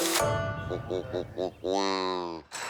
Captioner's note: quacking